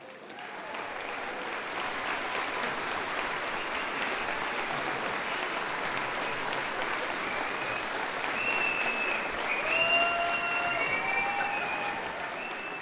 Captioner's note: applause